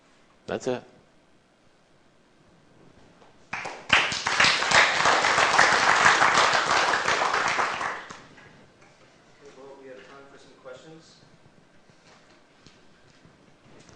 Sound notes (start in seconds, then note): 3.5 applause